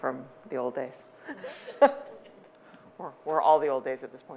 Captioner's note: chuckling